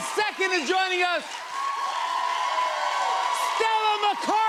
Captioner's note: cheers and applause